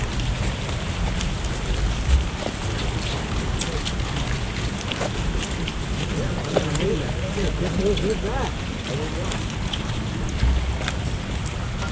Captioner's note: feet marching on we pavement